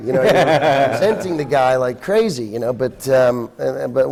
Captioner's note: laughter